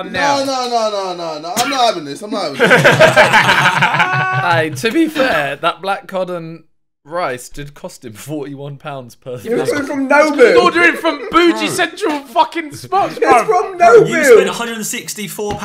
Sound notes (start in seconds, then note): 6.2 men laughing; 12.6 laughing